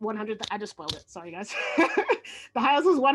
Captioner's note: laughs